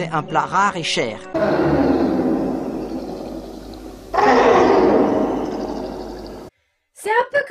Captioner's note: cry of Gégène